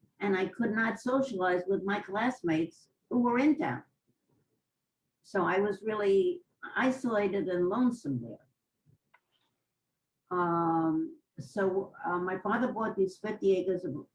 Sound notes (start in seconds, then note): 8.5 pauses for 3 seconds